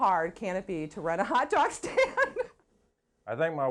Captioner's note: laughs